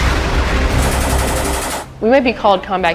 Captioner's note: gun firing